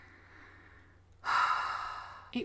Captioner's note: sigh